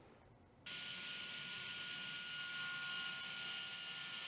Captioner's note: saw whirls